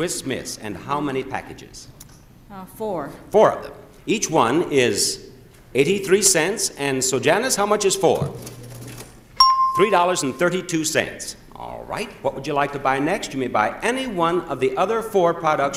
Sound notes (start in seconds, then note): 8.4 cash register dings